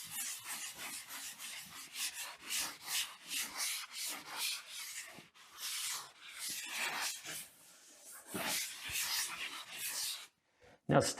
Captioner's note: sanding